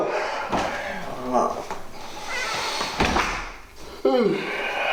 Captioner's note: Ramon groaning